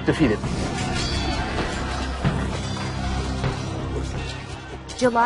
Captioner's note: swords clattering and men yelling